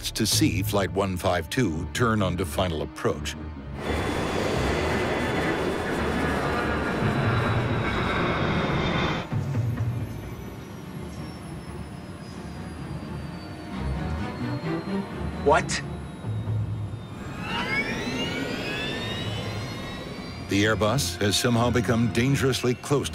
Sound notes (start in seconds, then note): 3.5 tense music; 16.4 tense music; 18.0 plane engine winding up; 18.0 tense music